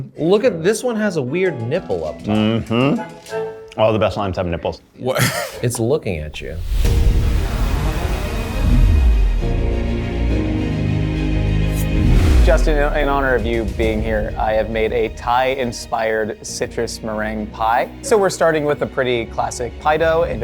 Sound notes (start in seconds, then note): 5.1 chuckles; 6.9 suspenseful music; 9.5 uplifting music